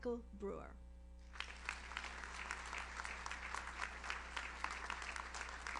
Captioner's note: audience applauds